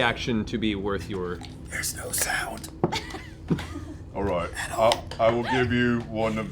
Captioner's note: hoarse